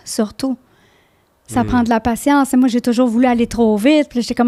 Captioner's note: in french